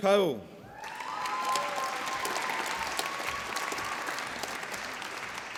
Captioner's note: applause